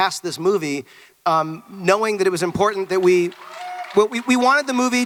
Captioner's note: audience clapping